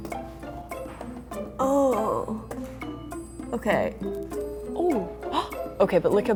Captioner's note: groans